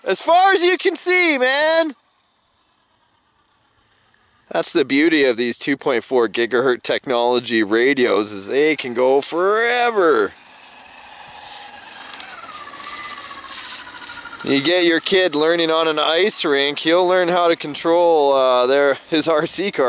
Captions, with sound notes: As far as you can see, Man! (engine noise fading) That's the beauty of these 2.4 gigahertz technology radios, is they can go forever. (engine sounds getting louder) And you get your kid learning on an ice rink and he'll learn how to control their RC car,